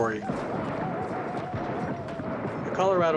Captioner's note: guns firing